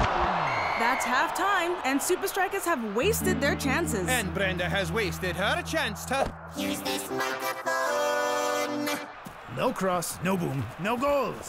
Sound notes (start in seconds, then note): 0.1 whistle blowing; 6.5 electronic voice effect